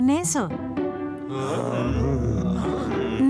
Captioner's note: grumbling